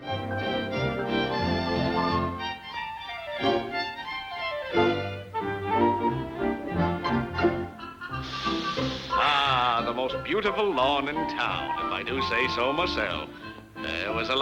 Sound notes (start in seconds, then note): 0.3 cheerful music; 8.1 farmer sniffs deeply